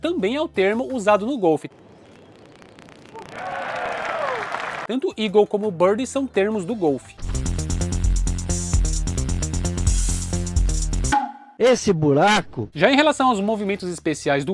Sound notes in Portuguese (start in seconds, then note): 3.2 aplausos